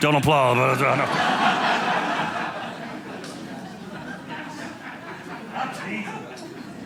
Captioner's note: audience laughing